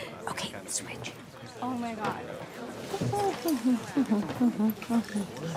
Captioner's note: charlotte humming